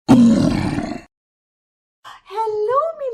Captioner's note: troll Growling